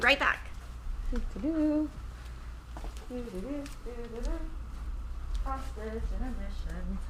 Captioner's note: hums